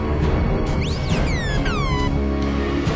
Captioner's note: astromech beeps